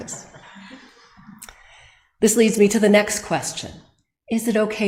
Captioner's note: audience laughs